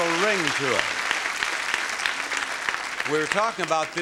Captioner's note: audience applauding